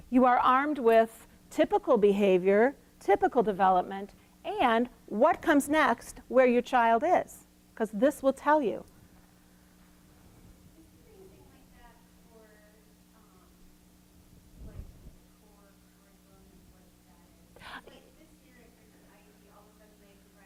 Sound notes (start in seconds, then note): 10.8 woman asking question